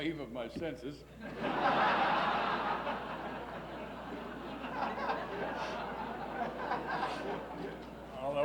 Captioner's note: laughs